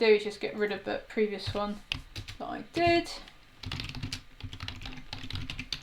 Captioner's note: keys tapping